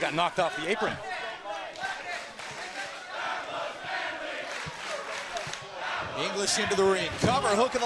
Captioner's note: crowd cheering